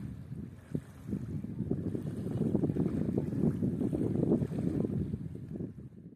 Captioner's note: wind buffeting the microphone